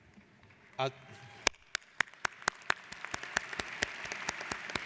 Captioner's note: applauding